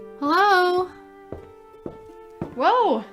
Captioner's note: footsteps approach